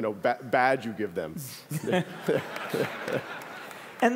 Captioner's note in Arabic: ضحك